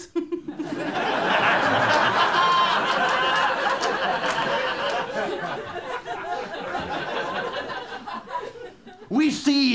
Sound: laughter

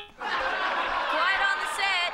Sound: laughter

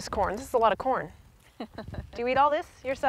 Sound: laughter

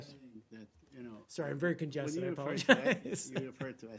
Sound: laughter

